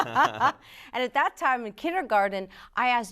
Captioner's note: all laughing